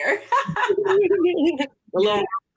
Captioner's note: laughs